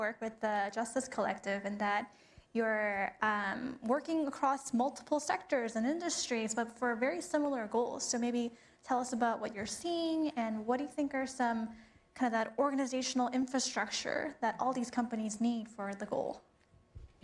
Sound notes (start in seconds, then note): none